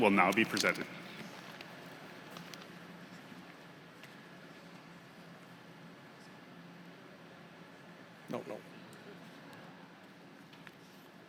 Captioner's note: applause